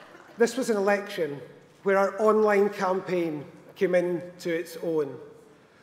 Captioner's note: applause